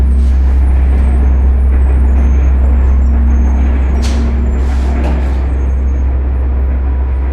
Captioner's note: train rumbling; suspenseful music